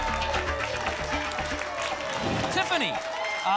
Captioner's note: applause and cheering cont